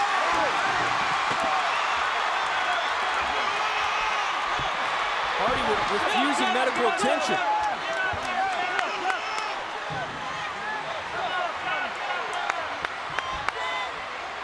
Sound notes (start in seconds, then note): 0.1 audience cheering; 10.0 audience chattering